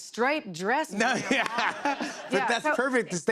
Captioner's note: laughter